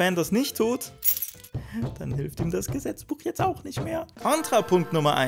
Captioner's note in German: Schlüssel klimpert